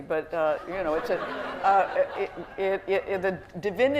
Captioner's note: laughter